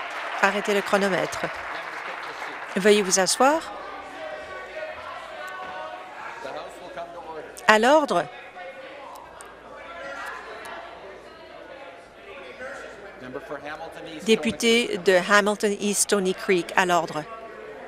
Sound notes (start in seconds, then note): 0.0 applause; 8.4 conversation din